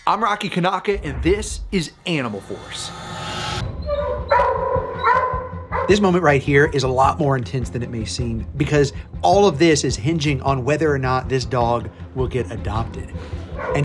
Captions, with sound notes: I'm Rocky Kanaka, and this is "Animal Force." (barking) This moment right here is a lot more intense than it may seem, because all of this is hinging on whether or not this dog will get adopted,